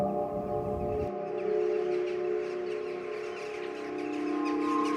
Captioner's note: birds chirping